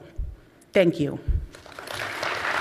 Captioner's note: applause